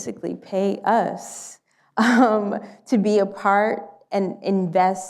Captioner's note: laughs